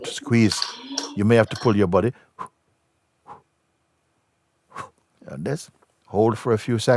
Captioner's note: exhales three times